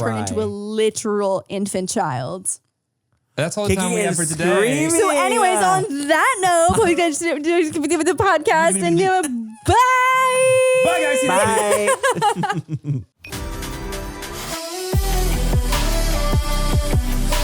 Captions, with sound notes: turn into a literal infant child. - That's all the time we have for today. - So anyways, on that note, the podcast, and yeah, bye! - By guys, see you- - Bye! (all laugh) (upbeat music)